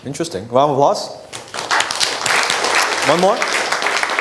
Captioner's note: audience applauding